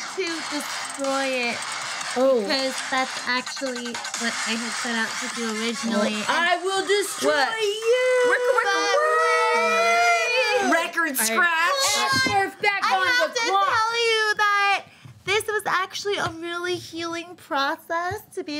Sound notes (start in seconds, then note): 7.5 group yelling